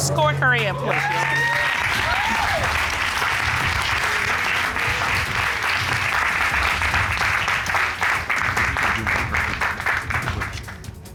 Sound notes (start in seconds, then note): 1.9 audience cheers, applauds; 8.4 indistinct chatter